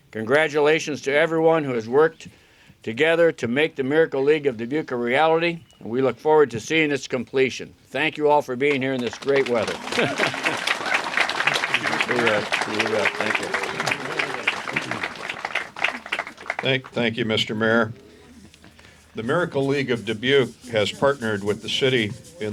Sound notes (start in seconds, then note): 8.6 applause